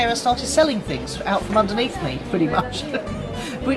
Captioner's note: laughs